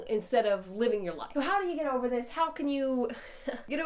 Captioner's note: laughs